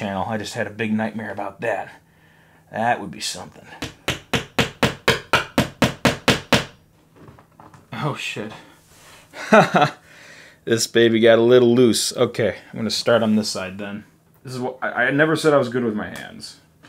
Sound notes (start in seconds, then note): 3.8 hammering; 9.3 chuckling